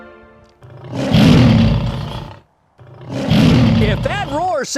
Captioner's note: lion Roar